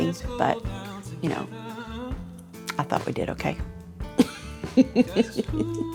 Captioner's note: chuckles